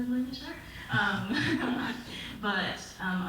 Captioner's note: audience laughs